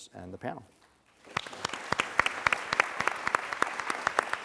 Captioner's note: applause